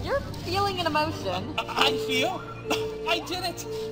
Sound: stammering

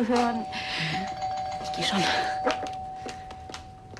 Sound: doorbell rings

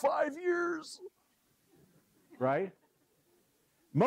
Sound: laugh

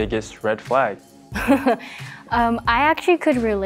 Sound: laughs

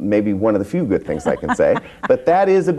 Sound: laughs

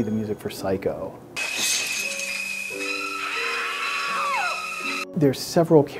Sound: screams

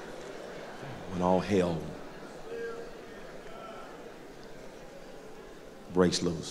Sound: crowd murmur

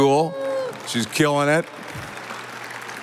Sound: audience applauding

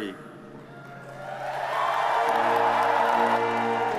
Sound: audience cheers

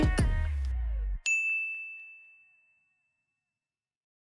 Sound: bell chimes

